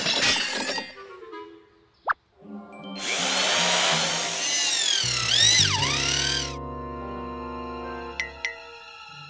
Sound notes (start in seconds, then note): 3.0 drill whirring